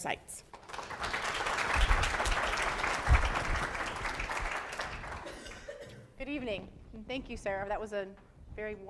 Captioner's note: applause